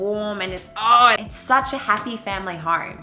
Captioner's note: ugh